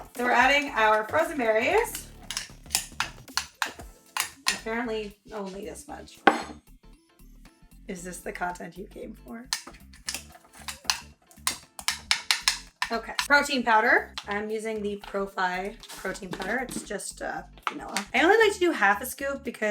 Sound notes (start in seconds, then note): 2.4 spoon scraping; 6.2 bowl clanging; 9.5 spoon scraping